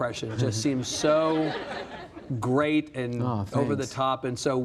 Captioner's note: audience laughs